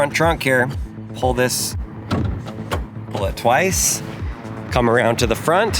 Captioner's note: lever clicks